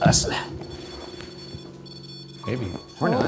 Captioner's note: REM-Pod beeping